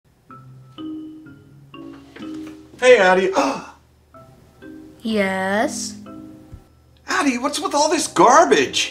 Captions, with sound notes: Hey Addie (gasps) Yes? Addie what's with all this garbage?